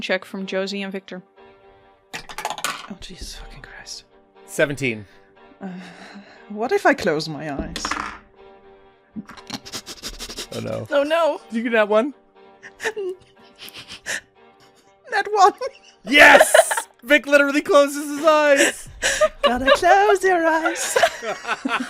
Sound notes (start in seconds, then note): 2.1 dice clacks; 7.7 dice clacks; 9.2 laughs; 15.5 laughter; 15.5 laughing; 21.6 laughter